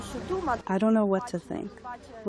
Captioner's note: through translator